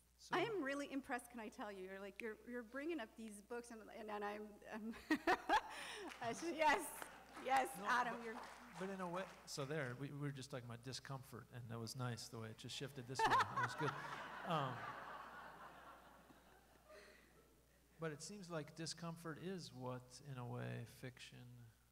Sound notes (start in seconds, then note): 5.9 scattered applause; 13.1 laughter